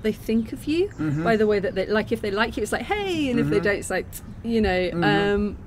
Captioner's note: tutting